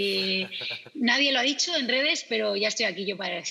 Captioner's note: laughs